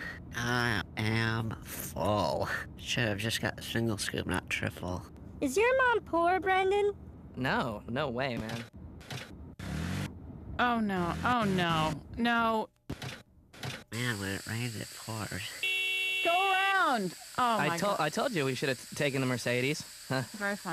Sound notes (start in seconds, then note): 10.6 engine sputtering; 15.4 horn beeping